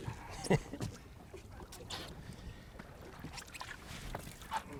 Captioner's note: chuckles